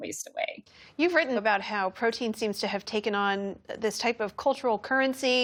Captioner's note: voice-over